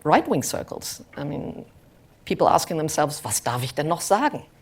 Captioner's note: german